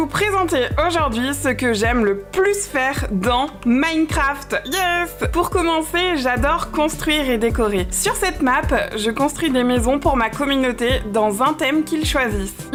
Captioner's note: speaking in french